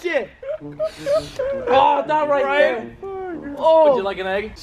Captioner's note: inhale